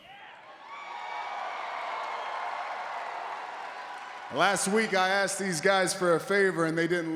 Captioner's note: applause